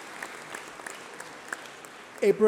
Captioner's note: applause